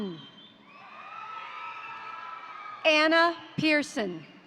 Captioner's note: crowd cheering; crowd applauding